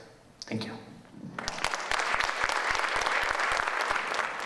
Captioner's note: audience applauding